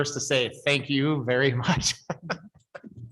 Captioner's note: laughs